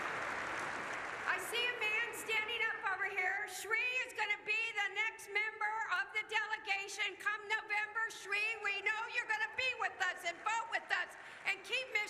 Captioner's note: cheers